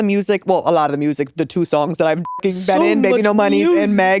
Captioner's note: beep